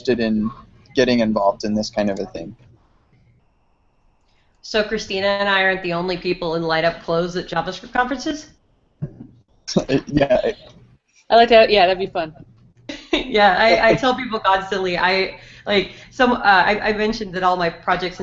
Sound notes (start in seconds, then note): 13.1 laughs